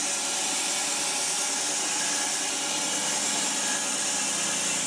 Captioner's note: saw whirring